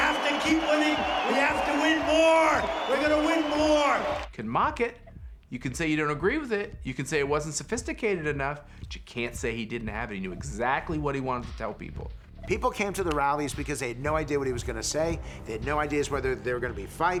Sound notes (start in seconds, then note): 0.0 crowd cheering; 3.9 crowd continues to cheer